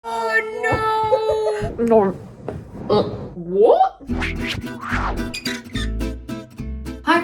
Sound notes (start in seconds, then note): 1.0 woman laughing; 2.3 grunts; 4.0 bouncy music; 4.1 metal squeaks; 4.1 air whooshes